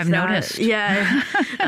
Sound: laughs

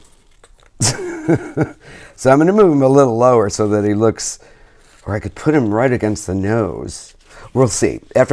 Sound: laughs

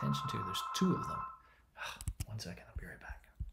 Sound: phone rings

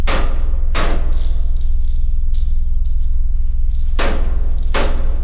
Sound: electricity flickering

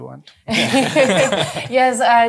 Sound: laughter

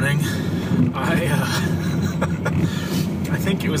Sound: laughs

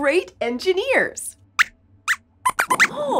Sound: squeaks squeaks

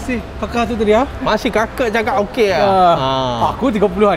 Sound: in Malaysian accent

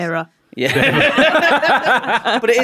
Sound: callback chuckle

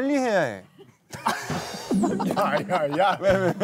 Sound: failed to suppress laughter

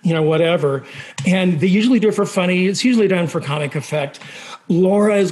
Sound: none

